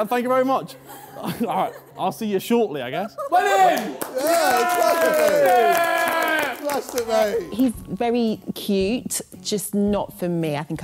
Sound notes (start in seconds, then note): 7.2 Sidemen cheering